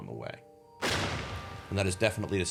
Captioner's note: thunder rumbling